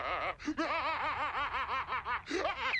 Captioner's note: laughs evilly